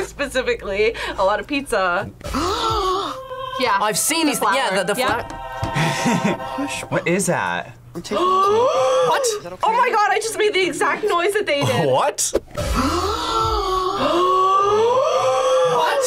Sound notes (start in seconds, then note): 2.2 person gasps; 5.7 laughs; 8.1 gasps; 12.6 gasps; 12.6 person gasps